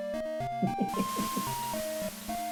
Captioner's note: chuckles